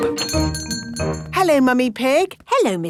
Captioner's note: doorbell chiming